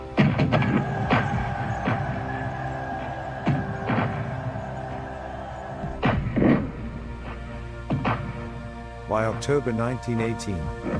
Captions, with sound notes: [soldiers cheering] [explosions booming] By October 1918,